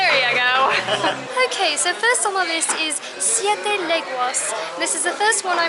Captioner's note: talking with a British accent